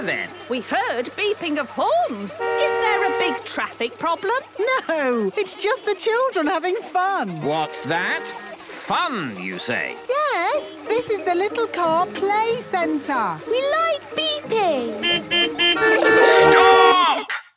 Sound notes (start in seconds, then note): 14.5 horns beeping